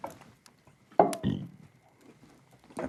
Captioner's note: belching